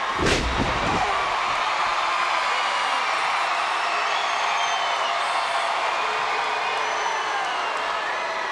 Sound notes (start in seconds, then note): 0.0 crowd cheers and boos; 1.1 Cena screams